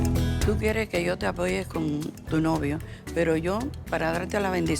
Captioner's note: speaking Spanish